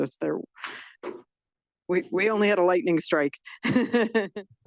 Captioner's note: chuckles